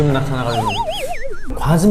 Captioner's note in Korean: 깨갱